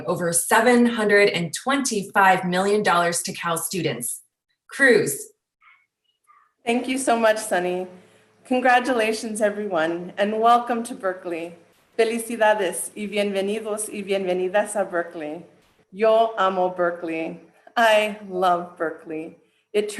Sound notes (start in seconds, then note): 12.2 speaking in foreign language